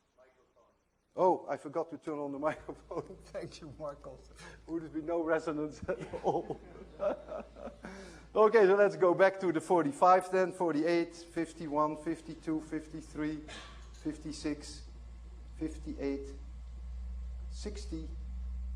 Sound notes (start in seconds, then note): 8.8 laughter